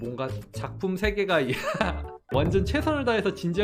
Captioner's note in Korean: 웃음